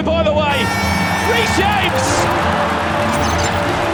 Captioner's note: crowd cheering; dramatic music playing